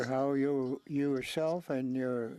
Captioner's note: speaking French